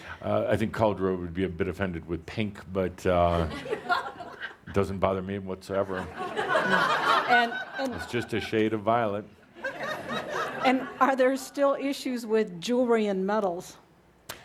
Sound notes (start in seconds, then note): 6.1 more laughter